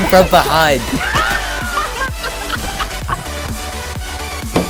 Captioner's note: players laughing